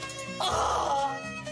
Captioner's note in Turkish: Bağırıyor